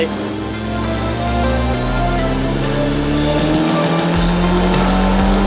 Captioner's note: engine revs up slowly